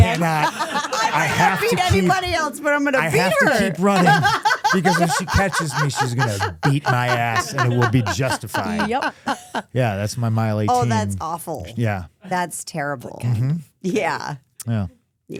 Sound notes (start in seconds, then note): 8.3 Stephanie laughing